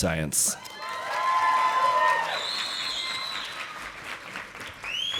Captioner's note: audience applauding